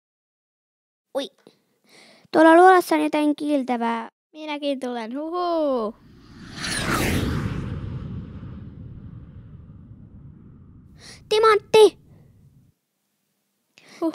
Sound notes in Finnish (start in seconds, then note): 6.0 lentämisen ääniä